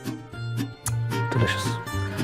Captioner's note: clicks tongue